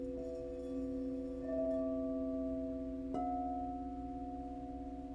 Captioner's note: bells continue to ring